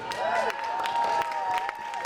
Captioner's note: audience applauding